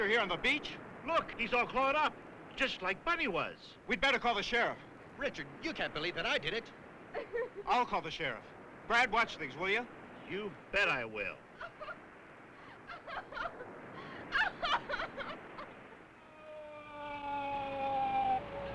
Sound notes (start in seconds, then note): 11.1 Sue crying; 16.6 siren blaring